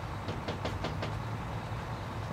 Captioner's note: knocking